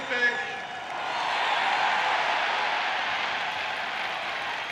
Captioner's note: speaking in French; crowd cheering